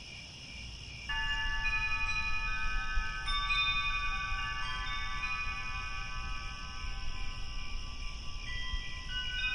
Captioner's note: crickets, wind chimes